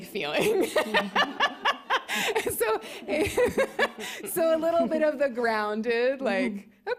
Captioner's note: laughs